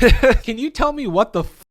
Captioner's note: laughs